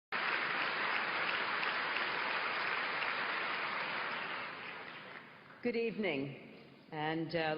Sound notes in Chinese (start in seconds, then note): 0.1 掌聲